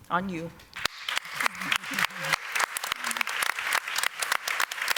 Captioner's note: applause